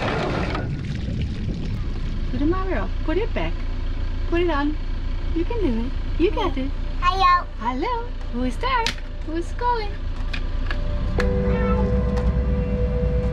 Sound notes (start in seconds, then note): 2.7 speaking foreign language; 10.8 soft music